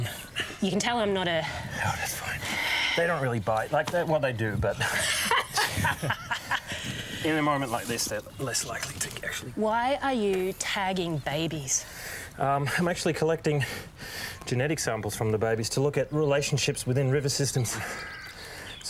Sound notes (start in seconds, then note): 4.7 laughs